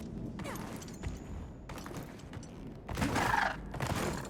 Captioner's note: footsteps thudding; monster thumping